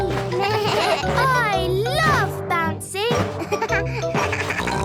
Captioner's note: giggles; bleating; giggles, snorts